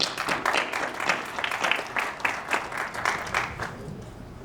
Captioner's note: audience clapping